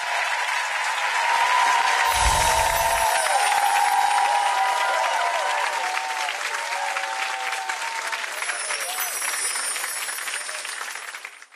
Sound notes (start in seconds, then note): 0.1 applause; 2.3 cheers